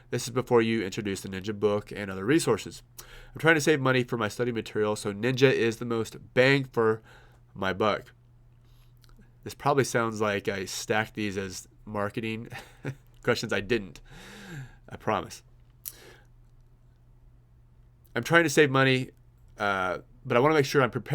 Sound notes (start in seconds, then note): 12.5 laughs